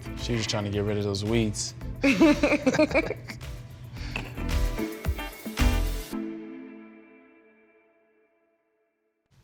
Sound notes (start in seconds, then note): 2.0 laughing; 4.6 upbeat, relaxed music